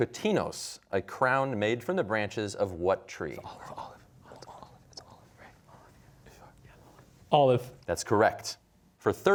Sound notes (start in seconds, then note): 3.8 whispering